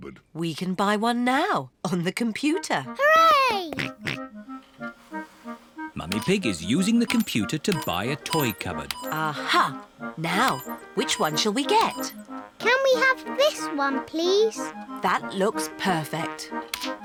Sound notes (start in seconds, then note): 4.5 snorts